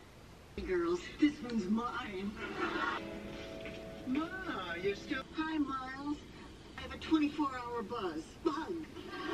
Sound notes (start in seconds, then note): 0.4 Golden Girls playing in background